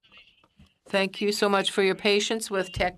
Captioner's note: speaking French